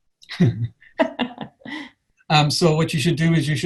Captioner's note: laughs